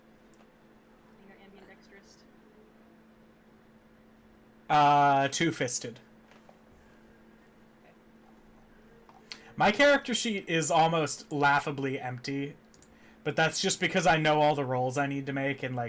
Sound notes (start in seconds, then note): none